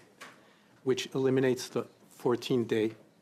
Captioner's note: speaking in French